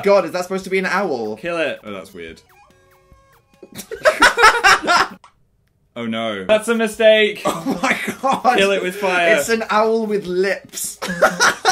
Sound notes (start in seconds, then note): 3.7 laughter